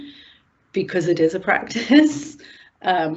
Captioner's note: chuckles